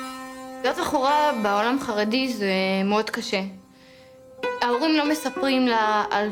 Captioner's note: speaking in foreign language